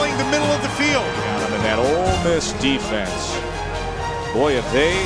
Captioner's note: voiceover